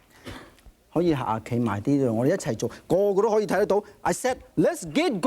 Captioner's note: speaking in foreign language